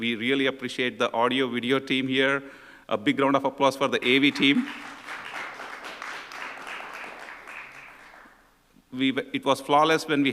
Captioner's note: applause